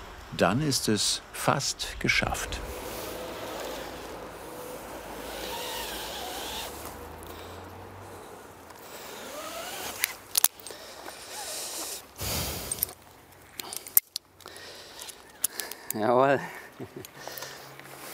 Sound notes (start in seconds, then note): 5.4 whirring from the rope; 9.8 clicking; 10.6 breathing; 13.1 clicking